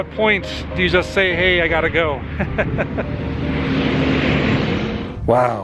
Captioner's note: laughter